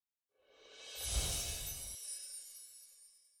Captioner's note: chiming